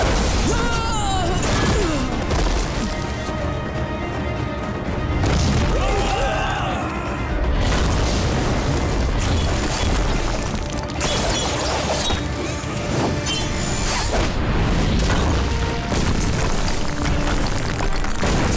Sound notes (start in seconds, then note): 0.1 groaning; 5.7 screaming